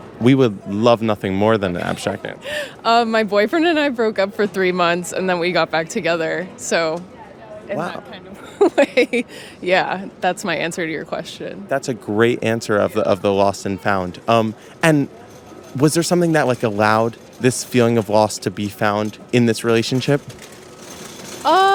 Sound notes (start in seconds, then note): 1.7 customer laughing; 8.4 laughing